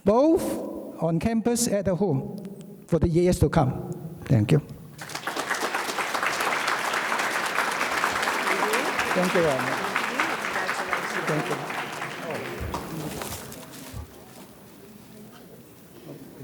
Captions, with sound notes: both on campus and the home for the years to come. Thank you. (audience claps) - For you. Thank you. - Thank you, congratulations. Thank you.